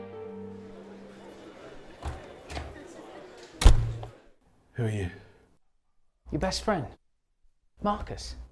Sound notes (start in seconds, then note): 0.4 group chattering; 1.1 door thuds